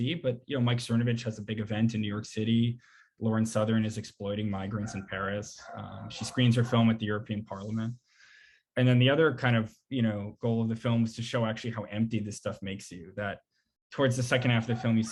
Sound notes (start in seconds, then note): 4.7 dogs barking